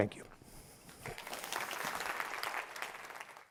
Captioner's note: applause